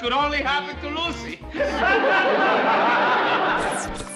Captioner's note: laughs